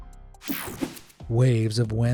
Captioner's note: screen whooshing